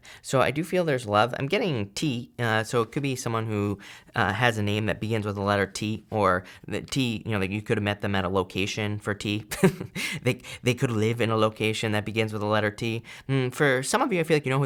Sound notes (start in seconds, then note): 9.5 chuckles